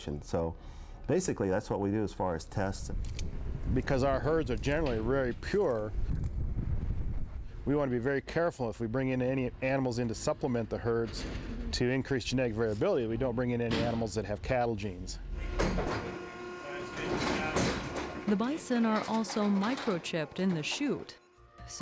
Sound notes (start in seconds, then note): 15.0 machine whirring; 15.2 machine clanking; 16.8 men chattering